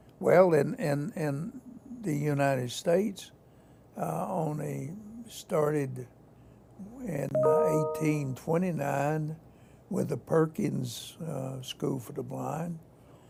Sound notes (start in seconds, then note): 7.3 notification dings on computer playing video